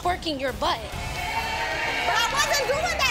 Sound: audience cheers

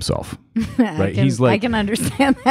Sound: laughing

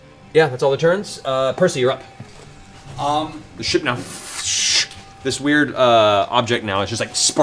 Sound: sliding sound

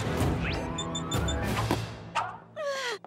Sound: beeping

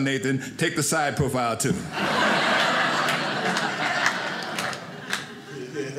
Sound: audience laughing

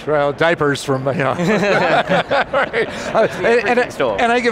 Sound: laughter

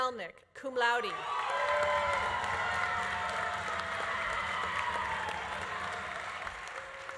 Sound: audience cheering; audience applauding

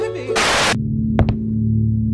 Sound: Static

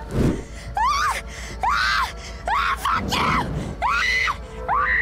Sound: flames ignites, wooshes; Stephanie screams and curses wildly; Stephanie screams in pain, burning

